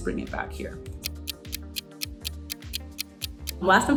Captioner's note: clock ticking